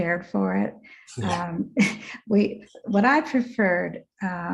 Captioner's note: chuckles